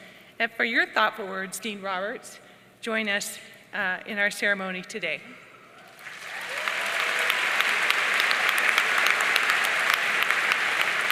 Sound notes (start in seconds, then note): 5.8 audience cheering and applauding